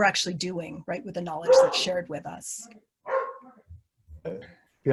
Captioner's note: barking in the background